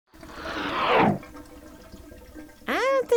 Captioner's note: toilet bubbling